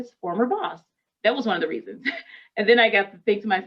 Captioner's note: chuckles